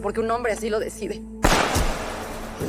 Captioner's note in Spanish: Disparo